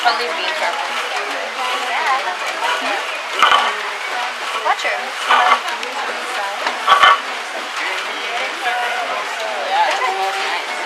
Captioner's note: chatter